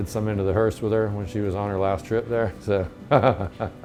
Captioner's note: laughs